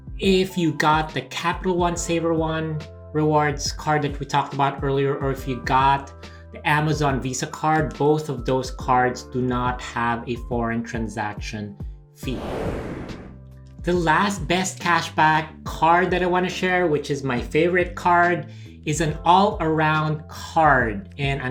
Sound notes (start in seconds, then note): 12.2 whooshing